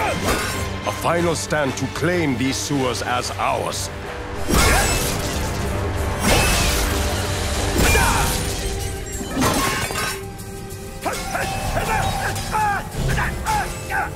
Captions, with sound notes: A final stand to claim these sewers as ours. [grunting, clanking] [grunting]